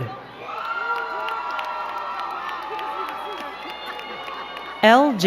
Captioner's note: crowd cheering and clapping